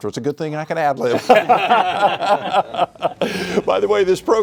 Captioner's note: all laugh